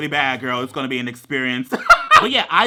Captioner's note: laughs